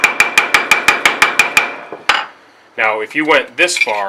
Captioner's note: hammering on metal